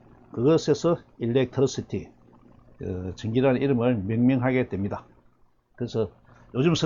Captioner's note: electricity